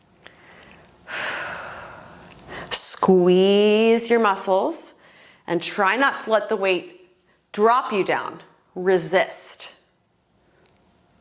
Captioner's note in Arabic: زفير